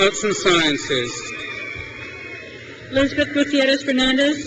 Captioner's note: crowd cheers